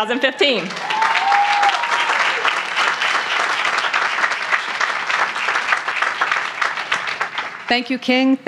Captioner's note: cheering; applause